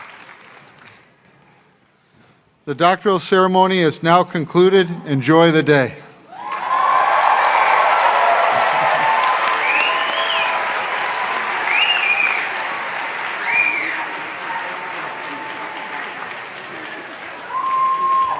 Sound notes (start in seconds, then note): 6.1 applause; 10.0 cheering; 12.9 applause